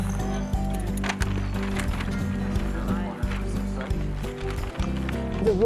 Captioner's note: paper rustling